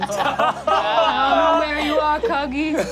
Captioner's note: all laugh